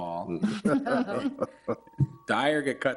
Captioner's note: group laughs